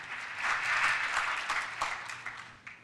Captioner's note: applause